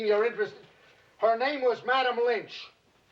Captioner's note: shouting